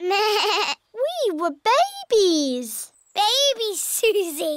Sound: bleats

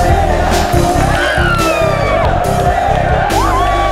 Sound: Aditi & Padmini screaming

